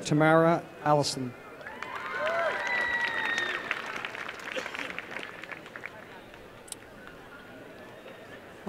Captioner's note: applause